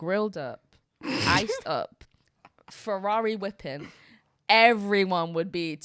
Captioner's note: girl laughs